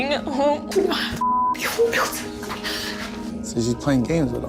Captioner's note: beep